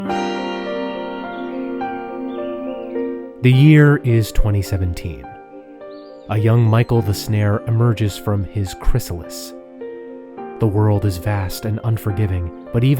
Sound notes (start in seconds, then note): 0.1 birds chirping; 0.1 gentle inspirational music